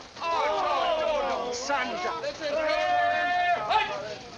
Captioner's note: grumbling